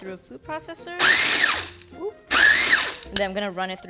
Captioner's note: processor whirs